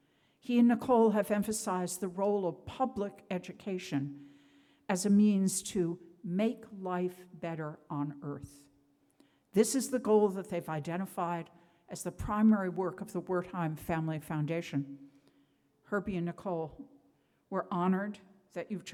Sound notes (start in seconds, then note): none